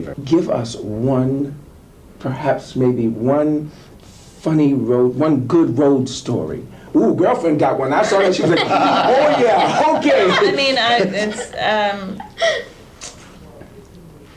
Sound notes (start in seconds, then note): 8.0 laughing